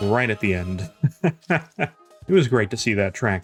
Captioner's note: laughs